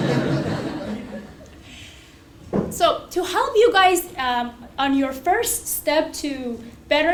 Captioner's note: laugh